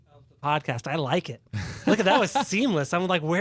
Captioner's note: laughter